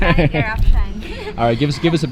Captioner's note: laughing